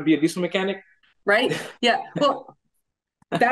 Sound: chuckles

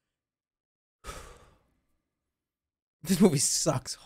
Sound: exhales

